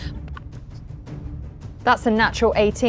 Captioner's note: die rattling